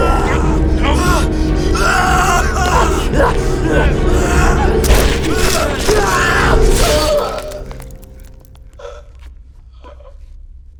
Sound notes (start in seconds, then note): 0.1 Tippet snarls; 0.1 screams; 4.8 ice cracking; 4.8 bones cracking; 4.8 blood dripping